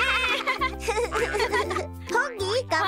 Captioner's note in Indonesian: tertawa